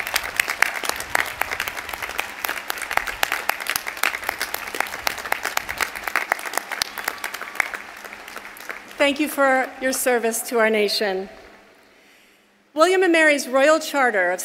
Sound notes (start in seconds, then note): 6.8 applause